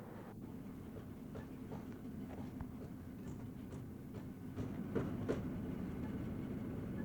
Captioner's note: construction noise, hammering